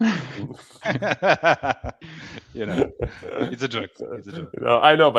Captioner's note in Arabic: ضحك